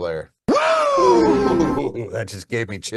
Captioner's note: yelling